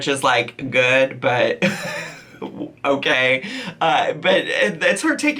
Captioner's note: laughs